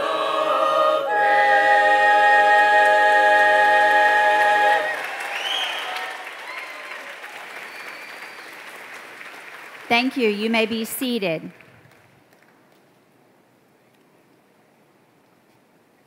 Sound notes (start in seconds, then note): 4.7 applause